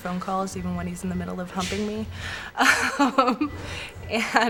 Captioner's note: laughs